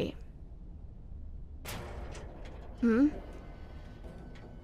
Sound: sound: elevator sound

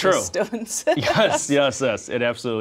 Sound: laughs

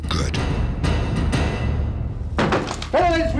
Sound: knocking at door

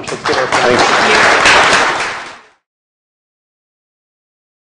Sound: applause

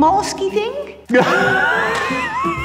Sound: laughter

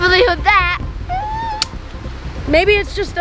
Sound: squeals

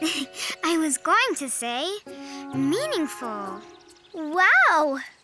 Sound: chuckles

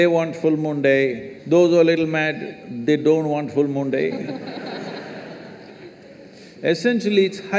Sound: laughter

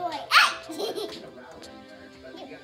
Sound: laughing

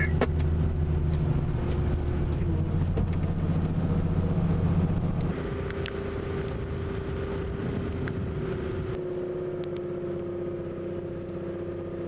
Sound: vehicle sounds

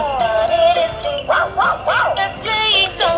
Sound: bow wow wow

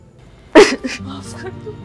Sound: cries

